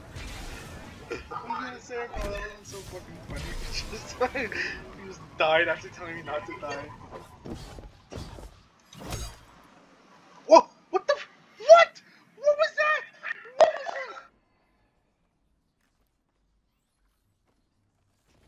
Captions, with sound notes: [Laughing] I was gonna say that would've been so fucking funny if you just died after telling me not to die. Woah- What the f- WHAT?! What was that?! What is this?!